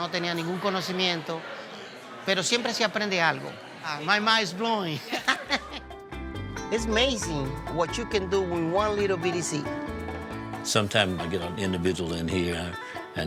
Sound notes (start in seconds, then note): 5.0 laughing; 6.0 lively bachata music beginning